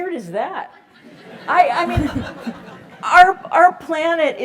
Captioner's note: laugh